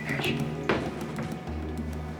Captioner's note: knocking